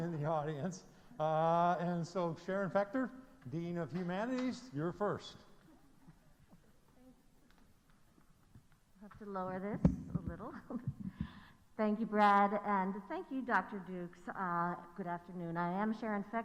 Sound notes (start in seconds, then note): 3.3 laughter